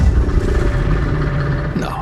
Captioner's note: creature roars